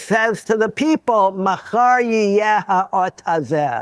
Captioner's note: speaking Hebrew